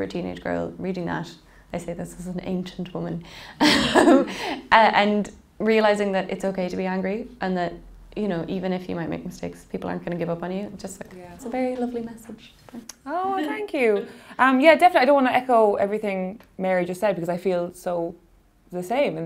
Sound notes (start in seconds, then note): 2.7 laughing